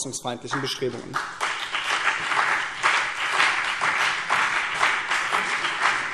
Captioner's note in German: Beifall BÜNDNIS 90/DIE GRÜNEN und CDU